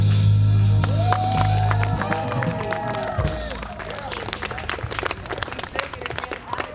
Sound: audience cheers and applauds

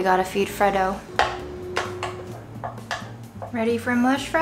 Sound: spoon tapping

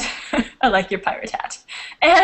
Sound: chuckles

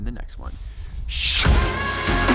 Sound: makes whooshing sound; emphatic electronic music

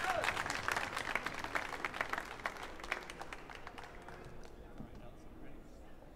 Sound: audience continues applauding

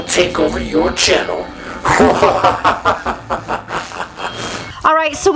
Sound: evil sounding laughter

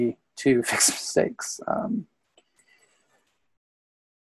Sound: laughs

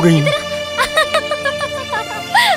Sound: laughs

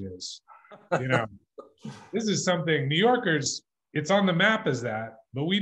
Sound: laughs

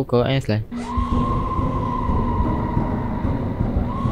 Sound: somebody's same scream again

